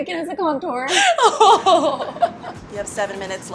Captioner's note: laughs